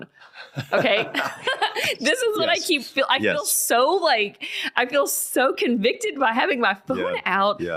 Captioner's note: laughing